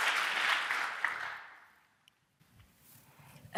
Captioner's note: applause